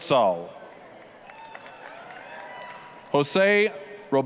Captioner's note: applause, cheering